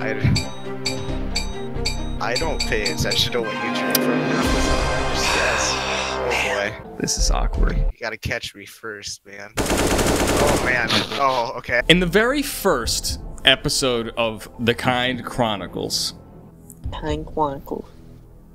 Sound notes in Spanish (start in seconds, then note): 9.6 disparos; 10.8 risas; 17.2 hablando como un niño pequeño